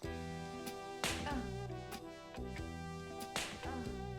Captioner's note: smack